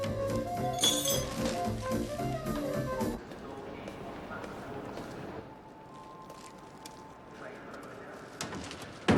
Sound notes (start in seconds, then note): 0.7 spoon clinking